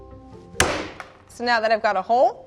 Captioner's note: bashes